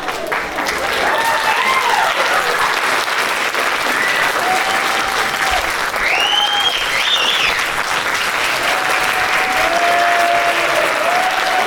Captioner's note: applause